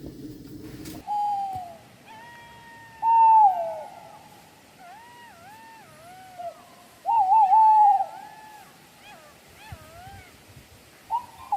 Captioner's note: owl sounds